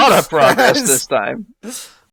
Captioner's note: laughs